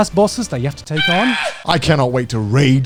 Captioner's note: shrieking